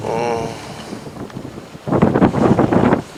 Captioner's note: groaning